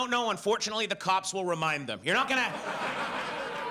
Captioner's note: audience laughs